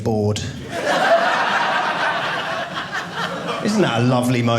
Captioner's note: audience laughing